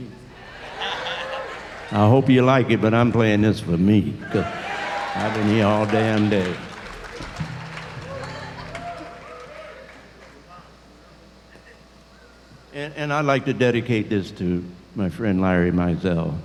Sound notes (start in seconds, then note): 0.4 audience applause; 6.5 applause and cheering